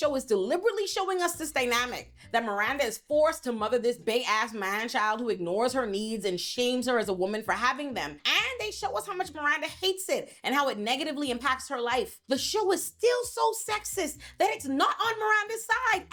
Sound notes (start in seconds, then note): none